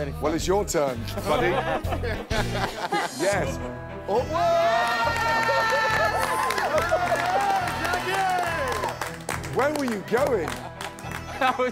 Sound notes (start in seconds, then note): 1.1 laughter; 4.3 cheering; 5.3 laughter